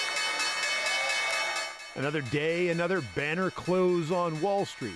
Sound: bell ringing

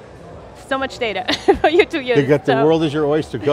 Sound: laughs

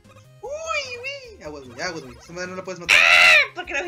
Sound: dying

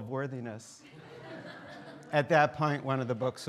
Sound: students laughing

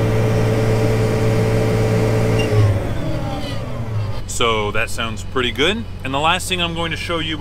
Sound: tractor sound

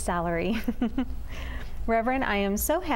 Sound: laughter

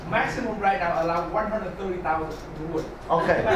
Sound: faintly speaking

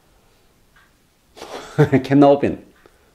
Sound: laughs

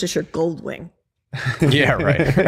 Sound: laughter

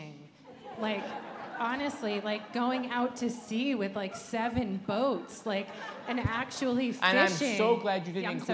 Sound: laughter

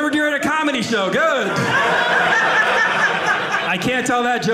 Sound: audience laughing

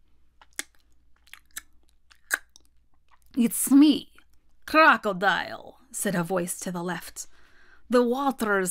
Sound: mouth smacking sounds

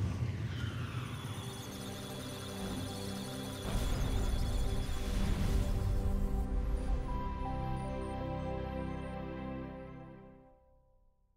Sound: electronic sounds of data

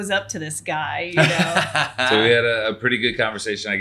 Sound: laughing

